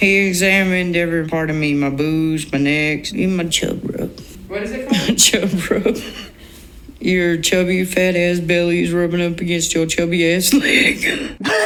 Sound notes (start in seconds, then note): 4.8 chuckles; 10.5 laughing; 11.4 chuckles